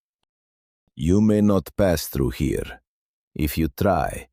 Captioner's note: threatening